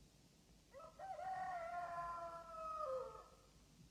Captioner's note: rooster crowing